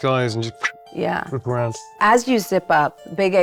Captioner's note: whistles